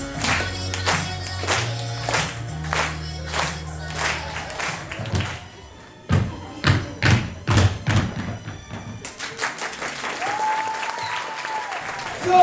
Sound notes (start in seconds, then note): 7.0 tap dancing; 9.0 applause